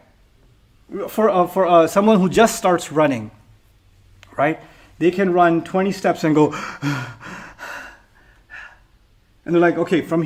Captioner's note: panting